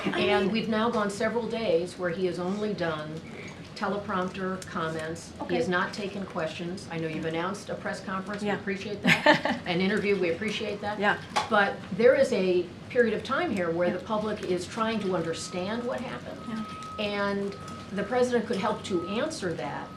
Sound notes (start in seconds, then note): 9.1 laughs